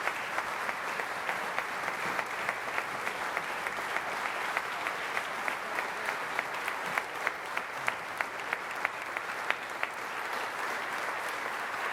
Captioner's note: applause